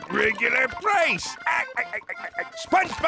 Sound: chuckling

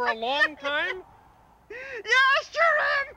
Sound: caller laughs

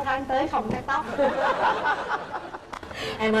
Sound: laughters

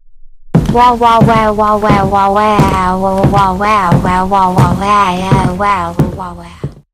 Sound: FX - Footsteps - On Wood

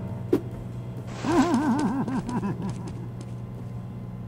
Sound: laughing

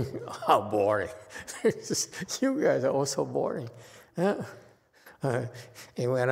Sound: laughs

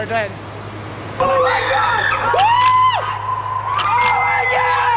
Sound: screaming

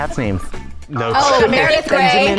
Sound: laughs

